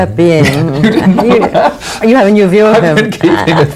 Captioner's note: laughter